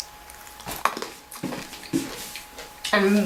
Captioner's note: crunches